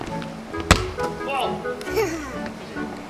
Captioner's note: thunk